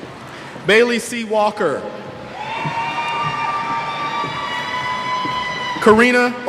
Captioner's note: cheers